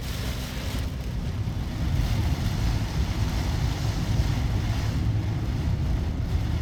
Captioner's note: rain and The wind got stronger and stronger